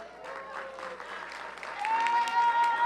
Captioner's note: applause